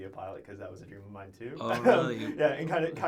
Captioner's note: laughs